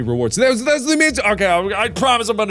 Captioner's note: babbling for a second